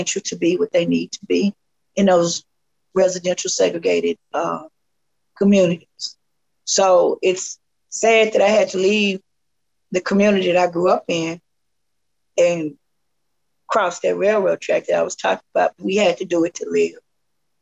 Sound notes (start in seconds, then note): none